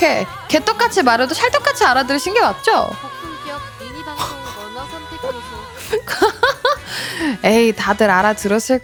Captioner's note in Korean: 웃음